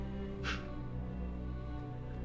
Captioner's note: scoffs